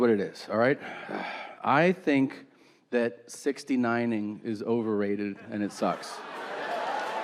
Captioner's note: sighs; audience cheering and applauding